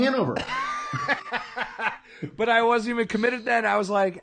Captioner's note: laughing